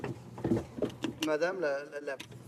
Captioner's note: speaking French